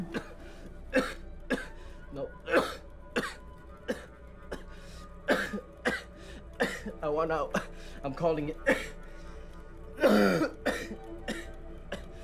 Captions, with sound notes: - (coughing) No, (coughing) I want out, I'm calling it. (coughing)